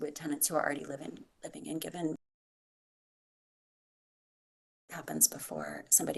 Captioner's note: audio cuts out